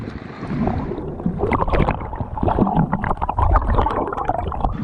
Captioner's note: splashing